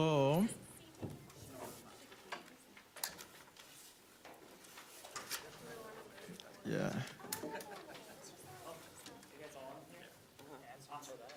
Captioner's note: students chattering